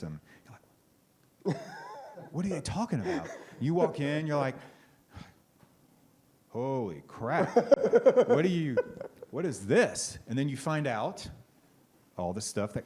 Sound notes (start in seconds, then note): 5.8 sighs; 7.4 laughs